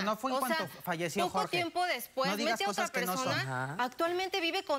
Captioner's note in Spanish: Hablan al unísono